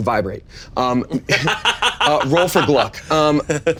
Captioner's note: laughing